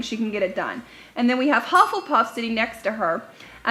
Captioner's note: dings